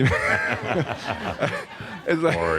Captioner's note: laughter